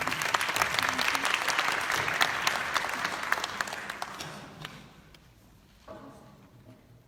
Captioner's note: clapping